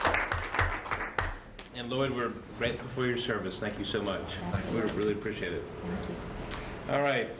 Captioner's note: applause